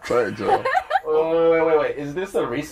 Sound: laughter

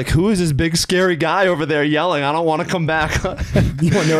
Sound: whimpers

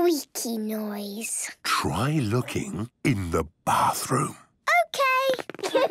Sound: whispering

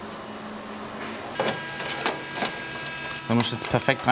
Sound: machine whirring

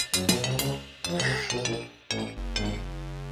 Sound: sighs

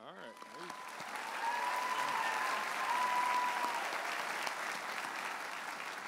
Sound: audience applauding and cheering

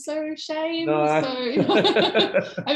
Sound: laughter

